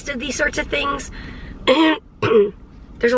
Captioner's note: clearing throat